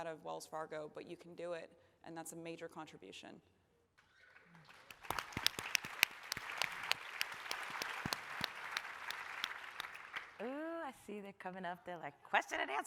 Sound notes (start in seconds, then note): 4.3 applause